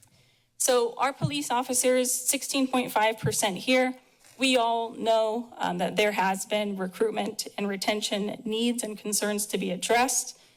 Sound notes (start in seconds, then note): none